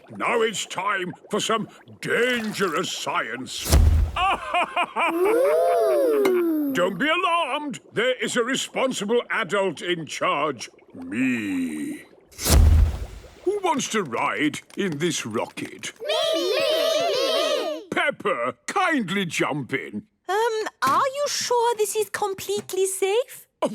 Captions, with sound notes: - Now, it's time for some dangerous science! - Poof! - Aha, ha, ha! - Oooh! - Don't be alarmed. There is a responsible adult in charge. Me. - Poof! - Who wants to ride in this rocket? - (calling out in turn) Me, me, me! - Peppa! Kindly jump in. - Um, are you sure this is completely safe?